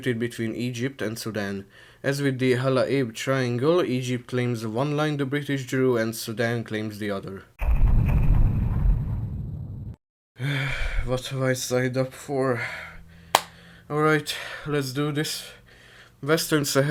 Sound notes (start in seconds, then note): 10.4 deep sigh; 13.3 clap